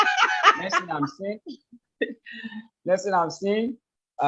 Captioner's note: laughs; laughs